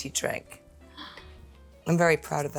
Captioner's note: Jenna gasps